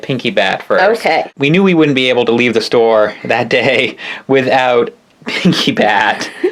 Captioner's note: laugh; laughs